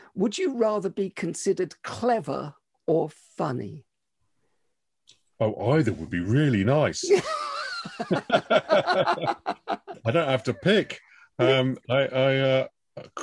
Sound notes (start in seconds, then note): 7.0 laughter